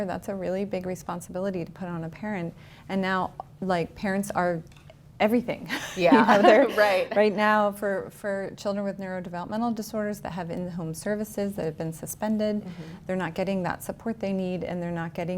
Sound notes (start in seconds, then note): 5.8 laughs